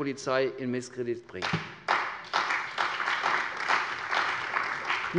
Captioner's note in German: Beifall bei der CDU und dem BÜNDNIS 90/DIE GRÜNEN